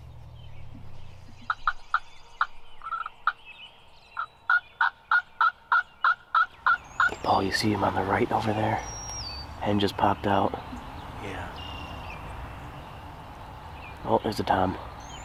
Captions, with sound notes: (turkey gobbles) - Hey Paul, you see him on the right over there? Head just popped out. - Yeah. - Oh, there's a tom.